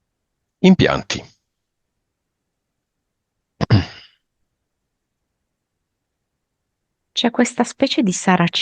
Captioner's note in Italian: schiarire la voce